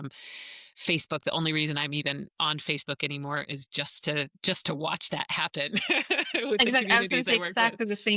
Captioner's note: laughs